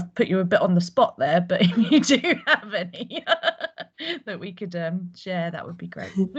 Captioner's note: laughs